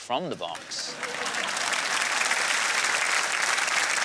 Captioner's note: applause